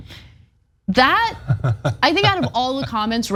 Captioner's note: laugh